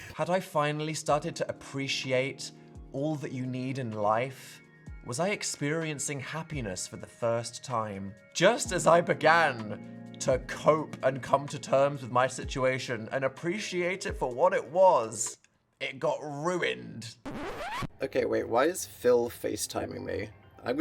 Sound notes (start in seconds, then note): 17.2 record scratching